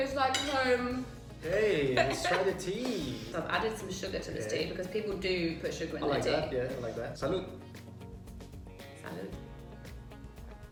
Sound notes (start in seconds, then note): 1.8 laughs; 2.8 claps hands; 8.2 acoustic guitar music